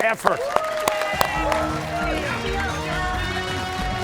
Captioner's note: cheers and applause